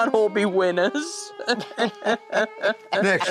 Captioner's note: Jack and Sharon laughing